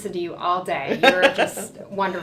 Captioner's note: laughter